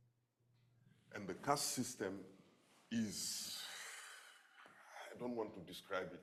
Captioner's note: sighs